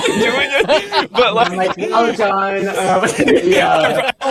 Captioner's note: laughter; chuckles